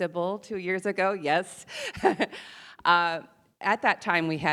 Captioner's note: chuckles